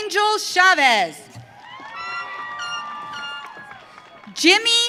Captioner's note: audience cheering